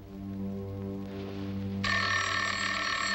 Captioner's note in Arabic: رنين الهاتف